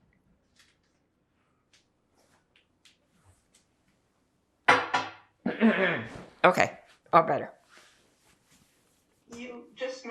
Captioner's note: drinking; clears throat